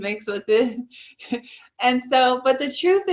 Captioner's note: giggles